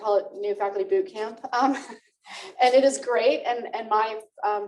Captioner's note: laughter